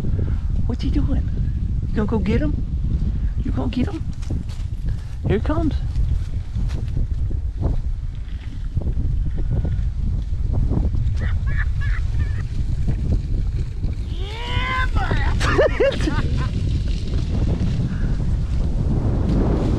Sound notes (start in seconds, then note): 5.0 laughing